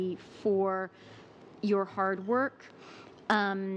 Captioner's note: speaking english